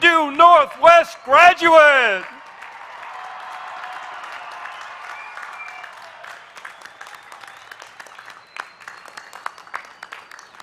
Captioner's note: applause